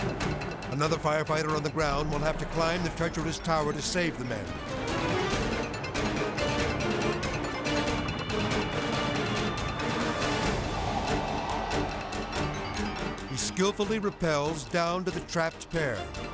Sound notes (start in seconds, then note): 4.3 tense music; 10.5 wind whooshing